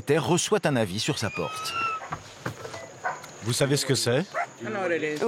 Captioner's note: door squeaking